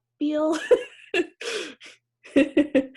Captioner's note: laughs